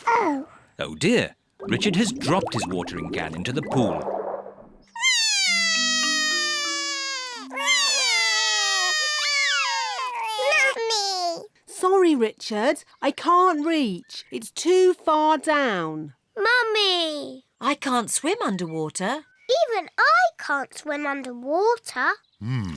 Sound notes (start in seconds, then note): 5.0 both crying